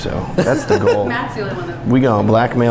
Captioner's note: laughing